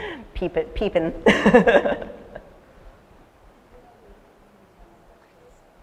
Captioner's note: laughter